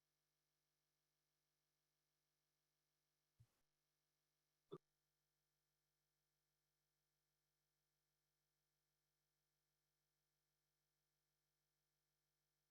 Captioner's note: silence